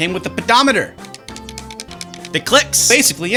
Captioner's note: pedometer clicking